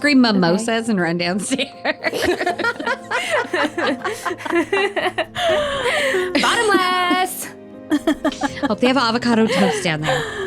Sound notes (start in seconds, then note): 5.1 laughing